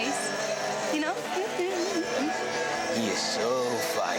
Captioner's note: hums